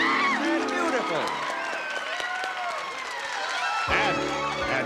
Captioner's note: cheering